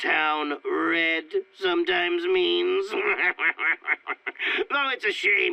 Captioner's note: laughs